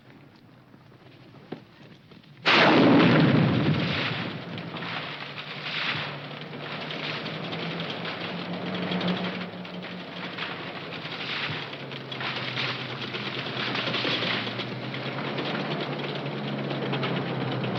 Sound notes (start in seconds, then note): 2.4 tree exploding